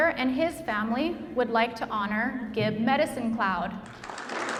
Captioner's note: audience applauds